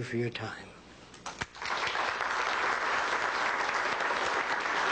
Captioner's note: applause